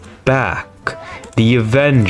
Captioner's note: inhales Oxygen